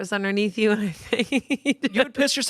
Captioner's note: laughs